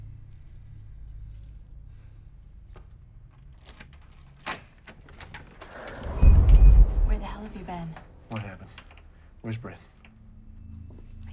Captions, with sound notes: (keys jangling) (door latch clicks) (door whooshing) - Where the hell have you been? - What happened, where's Bryn?